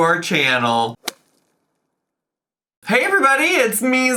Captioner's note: logo thuds